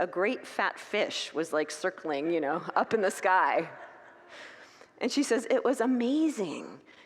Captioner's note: congregants laugh